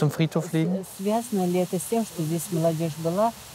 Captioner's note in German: Sie fragt auf Russisch